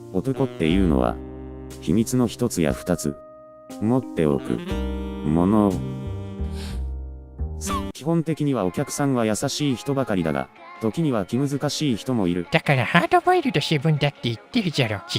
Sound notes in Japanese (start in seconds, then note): 6.3 息を吸う